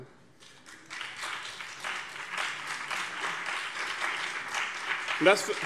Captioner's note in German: Beifall BÜNDNIS 90/DIE GRÜNEN und CDU